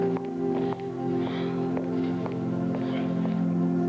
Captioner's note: sigh